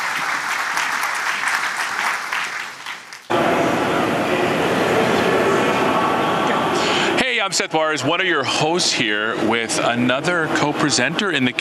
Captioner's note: applause